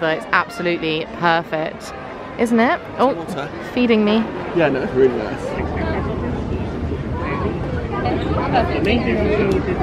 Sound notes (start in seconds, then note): 6.2 crowd murmuring